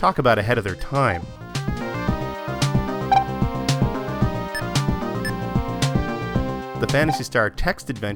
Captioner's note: game audio